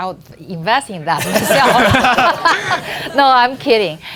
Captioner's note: laughing